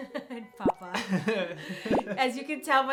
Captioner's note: laughs